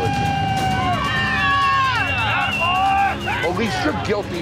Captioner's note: cheers